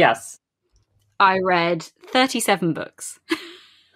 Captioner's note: laughs